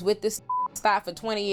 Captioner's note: beep